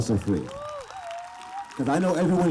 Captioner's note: applause